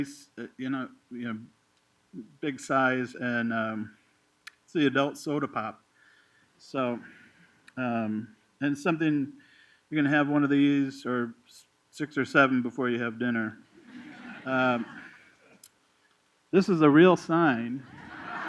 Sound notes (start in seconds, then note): 13.8 laughter; 17.8 laughter